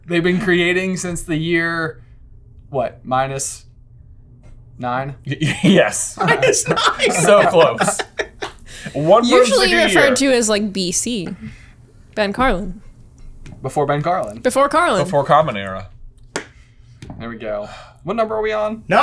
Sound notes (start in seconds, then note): 6.2 cracking up